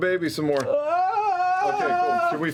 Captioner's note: wailing